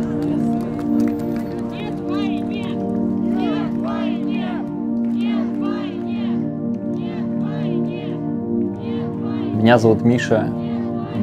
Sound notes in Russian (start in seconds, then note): 0.0 звуки протеста - Ничего не бойтесь, все будет хорошо; 1.5 звуки протеста - Нет войне!